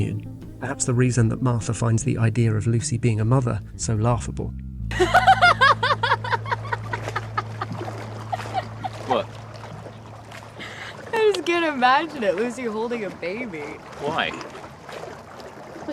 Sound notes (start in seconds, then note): 5.6 laughing